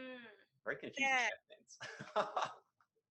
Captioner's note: laughs